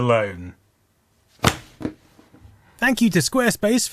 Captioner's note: flump